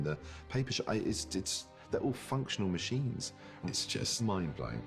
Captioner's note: stammers